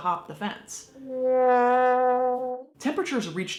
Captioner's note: wailing horn